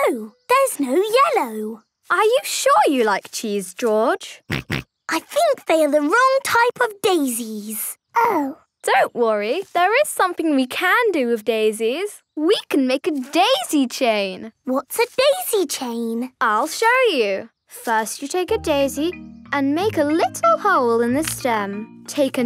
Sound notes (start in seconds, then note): 4.4 snorting